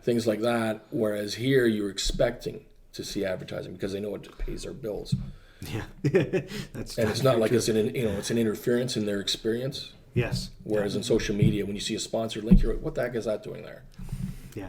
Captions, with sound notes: Things like that, whereas here you're expecting to see advertising, because they know it pays their bills. - Yeah (laughs) that's true. - And it's not like it's an interference in their experience. Whereas, in social media when you see a sponsored link, you're like what the heck is that doing there.